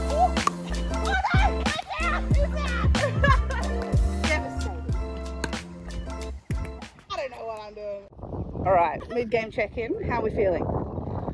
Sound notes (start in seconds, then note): 3.5 laughs